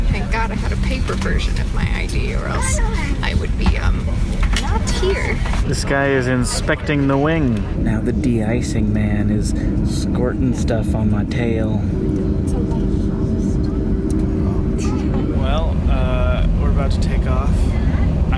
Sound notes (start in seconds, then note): 14.2 laughs